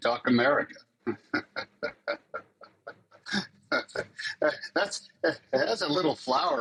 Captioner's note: laughs